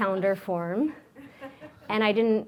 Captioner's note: audience laughs